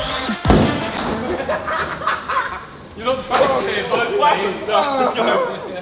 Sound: lads laughing

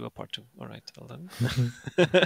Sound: laughs

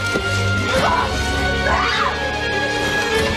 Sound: Meg screams

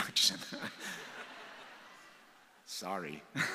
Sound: audience laughs

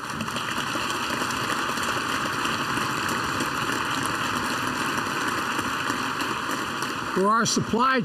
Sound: applause

